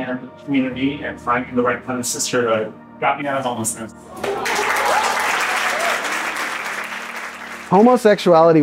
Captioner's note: cheers and clapping